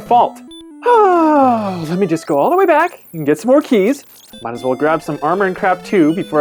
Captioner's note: long sigh